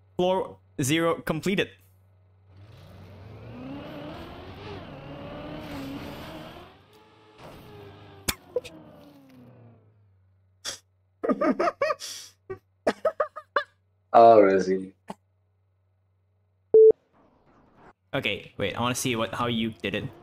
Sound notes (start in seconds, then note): 8.2 laughs; 12.9 laughing continues